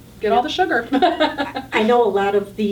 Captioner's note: laughing